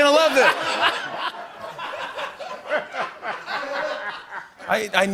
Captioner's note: laughter